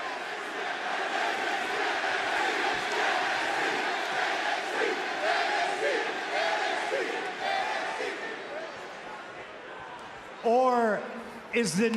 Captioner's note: crowd chants "nxt"